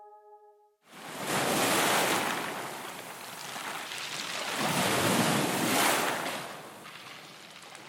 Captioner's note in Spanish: Sonido de olas en la playa